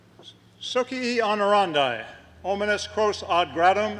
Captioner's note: latin speech